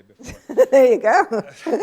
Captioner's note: laughter